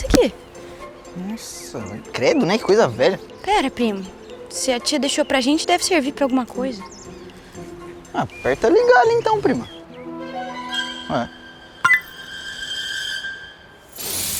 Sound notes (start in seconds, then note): 10.8 click